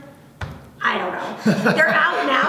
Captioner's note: laughs